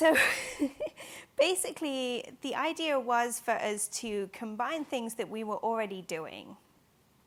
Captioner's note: laughing